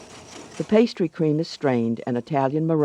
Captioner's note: voiceover